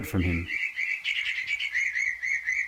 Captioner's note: birds twittering